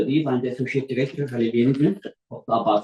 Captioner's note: non-english speech